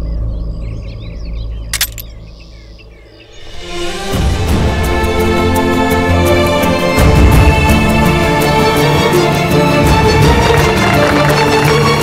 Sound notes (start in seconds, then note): 1.7 Gun clicking; 9.8 All Clapping